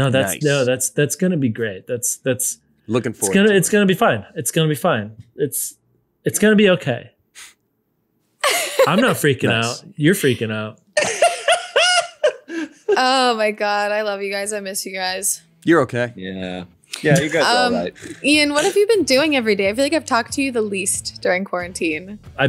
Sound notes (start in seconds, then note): 8.4 laughs; 11.0 laughter